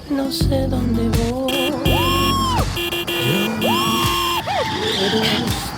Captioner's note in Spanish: Claxon; Exclamaciones